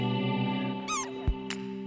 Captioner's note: squeak